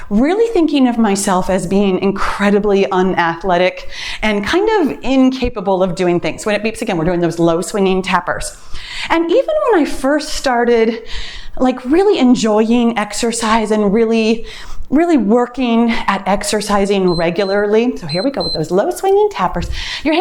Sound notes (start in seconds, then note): 17.0 timer beeps